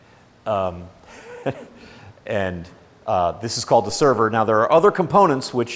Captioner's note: laughs